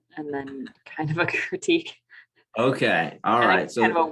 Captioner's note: laugh